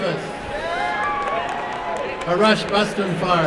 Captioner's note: applause and cheering